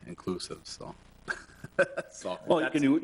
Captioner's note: laughs